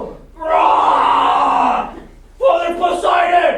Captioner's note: roaring